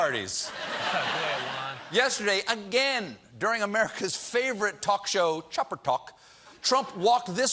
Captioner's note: laughter